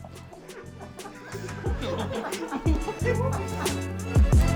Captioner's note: laughing